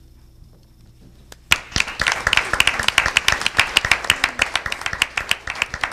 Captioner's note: audience applauding